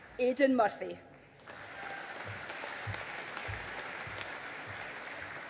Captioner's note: audience applauding